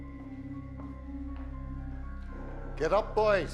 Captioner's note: dramatic foreboding music; footsteps thumping